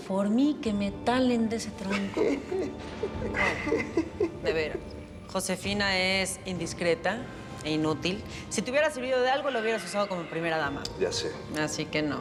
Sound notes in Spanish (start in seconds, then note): 1.8 risa nerviosa de felipe